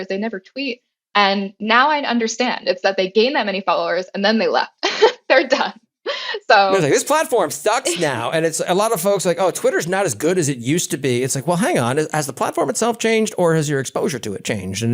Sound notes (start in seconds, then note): 6.6 laugh